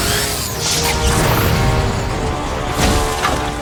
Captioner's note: robot whirring loudly; electric buzzing; robot leg explodes; robot hits ground